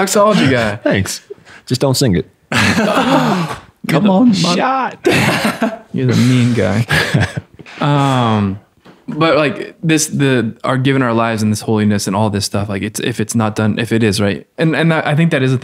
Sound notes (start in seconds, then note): 2.5 all laughing